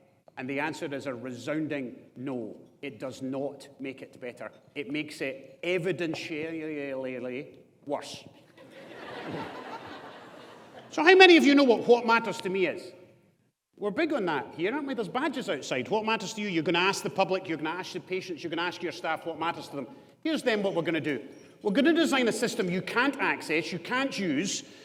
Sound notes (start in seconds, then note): 8.6 audience laughs